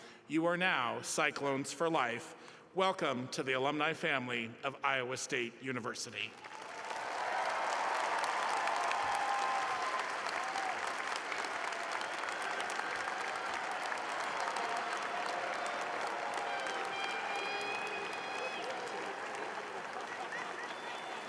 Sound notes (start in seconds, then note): 10.0 applause